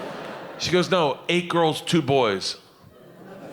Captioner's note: audience laughing